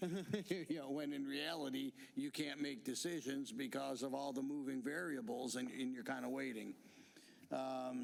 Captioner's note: laughter